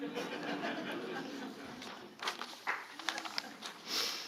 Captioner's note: audience laughing